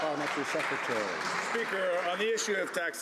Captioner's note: some Applause